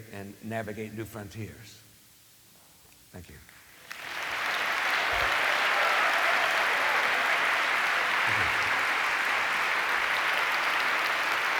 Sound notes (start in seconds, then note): 3.8 applause